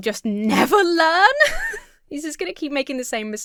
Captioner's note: laughs